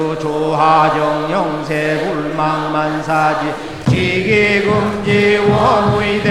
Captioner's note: applause